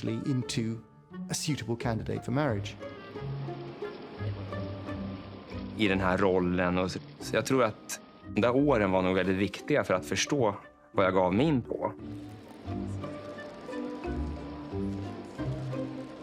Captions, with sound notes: into a suitable candidate for marriage. (speaking in foreign language) (upbeat music continues)